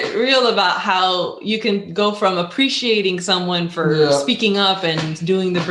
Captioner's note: laughing